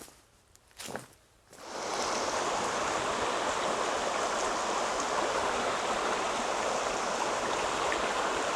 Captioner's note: water rushing